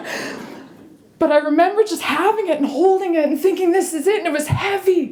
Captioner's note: chuckle